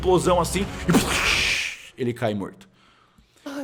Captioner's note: boom; poof